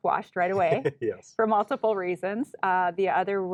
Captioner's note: chuckling